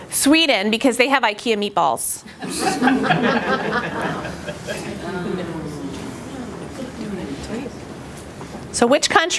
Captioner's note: laughter